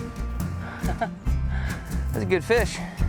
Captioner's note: giggles